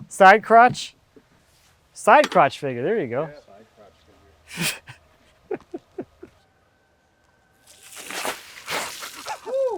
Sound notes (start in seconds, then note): 5.4 laughs